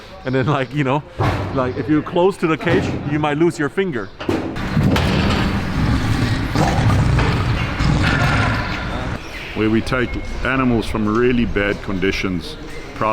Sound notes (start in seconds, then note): 4.5 cage rattling; 4.6 lion rumbling